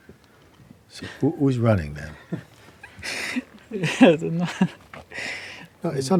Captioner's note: laughs